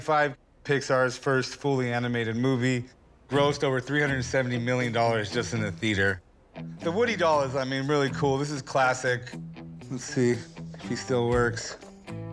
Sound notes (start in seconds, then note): none